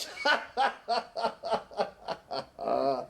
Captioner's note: laughing